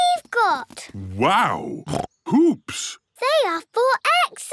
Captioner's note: snorts